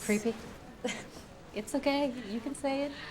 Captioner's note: Candace laughs